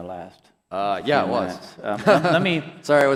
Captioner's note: chuckles